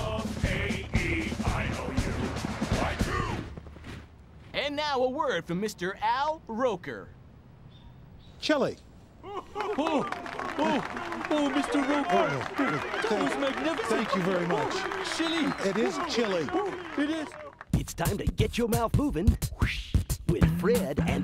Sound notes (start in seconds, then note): 9.6 applause